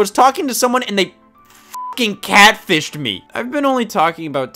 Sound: beep

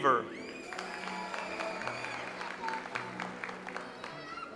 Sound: audience applauds

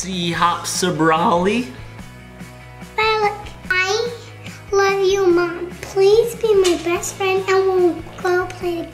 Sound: none

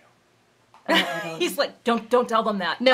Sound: laughing

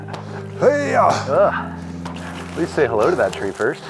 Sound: grunting

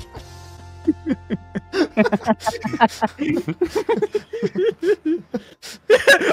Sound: laughter; laughs

